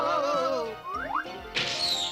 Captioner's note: screeches